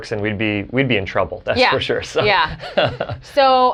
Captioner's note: chuckles